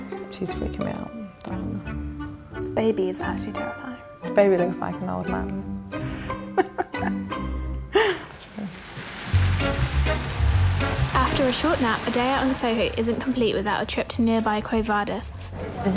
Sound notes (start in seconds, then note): 6.2 laughing; 9.3 upbeat music